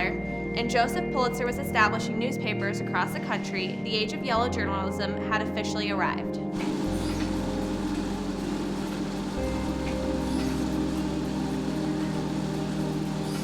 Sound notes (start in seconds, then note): 6.4 treadmill whirring over dramatic electronic music